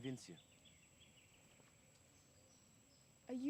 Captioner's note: birds chirping; cicadas chirping